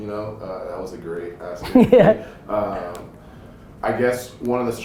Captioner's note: laughs